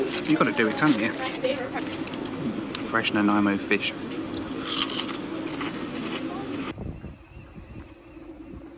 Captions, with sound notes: You've got to do it, haven't you? Fresh Nanaimo fish (batter crunches)